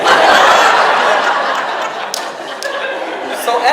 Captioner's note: audience laughs